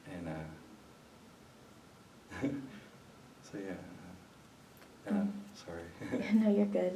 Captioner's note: laughs